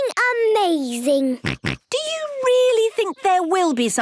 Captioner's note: snorts